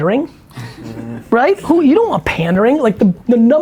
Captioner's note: chuckles